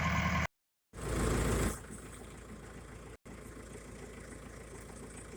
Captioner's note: tractor motor running